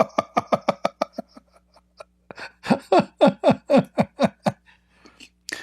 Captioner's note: Ketawa